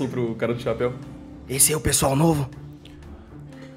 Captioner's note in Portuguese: sussurrando